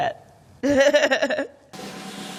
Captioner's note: laughs; drum roll